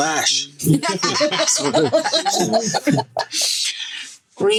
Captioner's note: all laughing